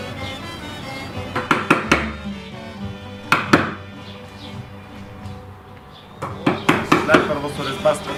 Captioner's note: woodcarving sounds